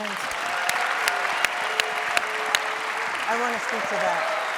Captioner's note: audience applauding